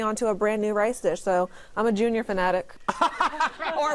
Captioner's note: laughter